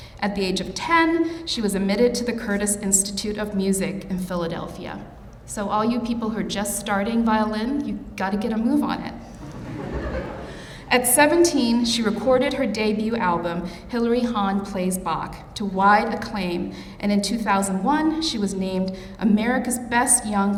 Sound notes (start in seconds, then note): 9.3 audience laughing